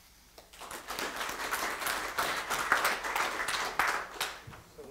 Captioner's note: applause